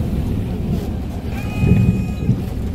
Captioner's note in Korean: 하차벨 소리